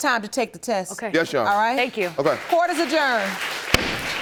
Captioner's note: audience applauding